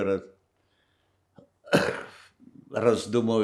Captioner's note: coughing